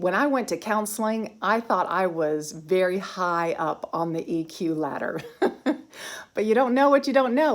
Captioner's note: giggling